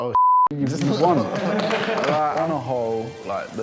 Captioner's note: applauding